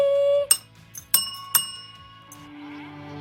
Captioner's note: rings bell